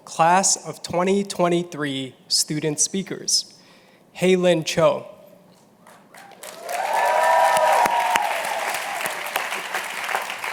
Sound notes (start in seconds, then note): 5.9 applause